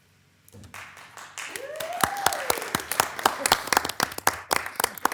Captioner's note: attendees applauding